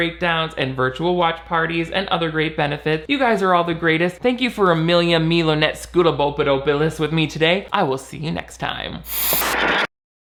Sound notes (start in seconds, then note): 9.0 static buzzes